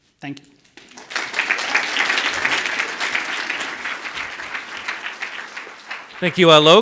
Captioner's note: audience applauds